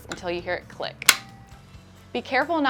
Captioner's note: pads click into place